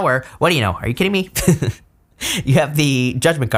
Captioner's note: laughs